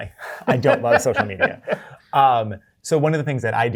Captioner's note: guy laughs